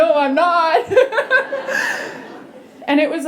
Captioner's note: laughter